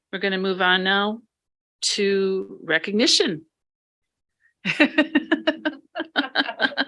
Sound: laughing

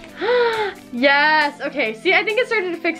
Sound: gasps

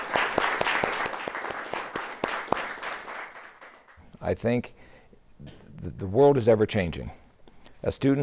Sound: applause

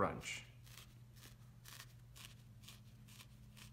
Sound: needle crunching into wool ball

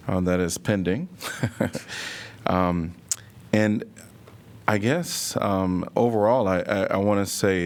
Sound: laughter

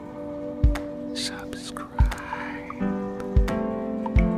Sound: whispers

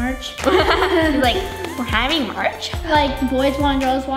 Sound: laughing

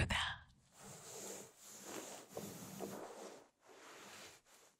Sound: rubbing continues

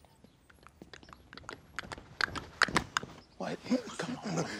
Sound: imitating hooves clopping

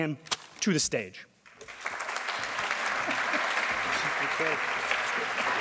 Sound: audience applauding

